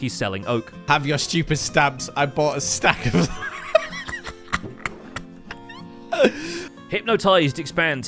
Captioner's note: laughs